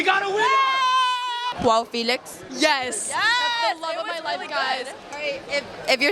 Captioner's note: cheering